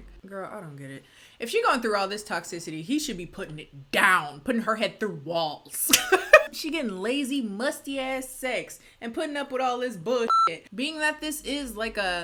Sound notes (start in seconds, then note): 5.9 laughs